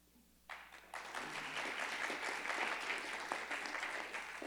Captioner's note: crowd clapping